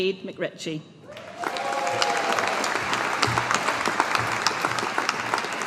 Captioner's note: audience applauding